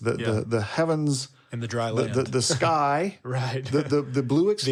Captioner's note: chuckles